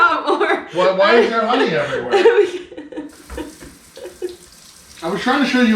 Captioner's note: laughing